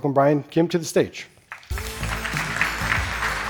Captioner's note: applause